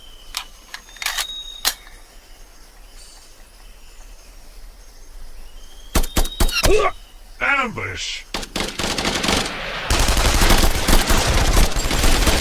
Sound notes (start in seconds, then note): 0.3 gun clicks; 6.0 gun blasting; 7.4 trooper groans; 8.3 guns blasting